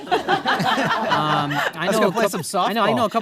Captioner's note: audience laughing